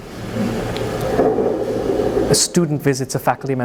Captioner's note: thunder rumbles